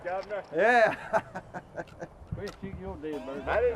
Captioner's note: laughs